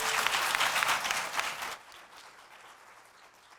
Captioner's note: applause